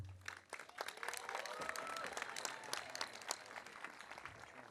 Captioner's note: audience applauding